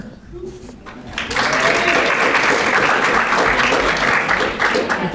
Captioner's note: audience applauding